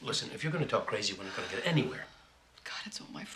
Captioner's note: sighs